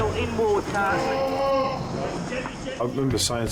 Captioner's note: victim yells